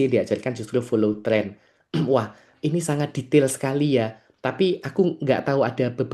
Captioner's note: berdehem